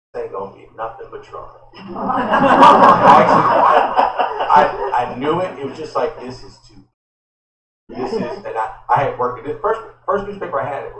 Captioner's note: laughter